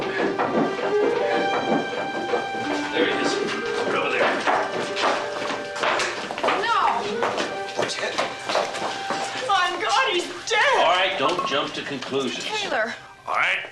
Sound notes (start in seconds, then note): 0.6 footsteps pattering